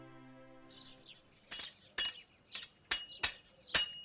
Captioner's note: birds chirping / swords clanging